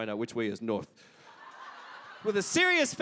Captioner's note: audience Laughter